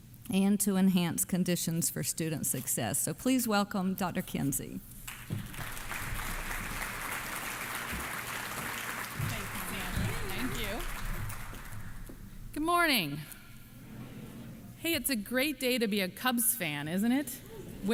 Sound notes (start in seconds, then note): 5.0 applause